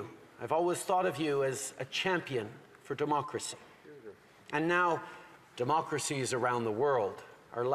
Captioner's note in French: voix de l'interprète